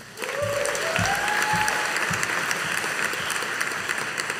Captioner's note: audience applauding